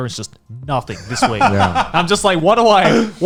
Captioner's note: laughing